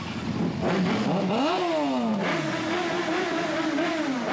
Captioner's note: engine revs